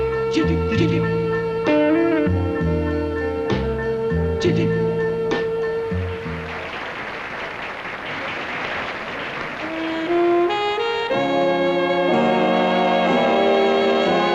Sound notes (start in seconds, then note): 6.1 applause; 9.5 seductive jazz music